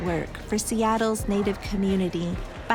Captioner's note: distant chanting